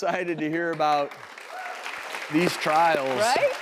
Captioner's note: audience applauds